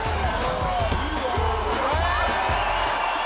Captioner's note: punch landing; crowd cheering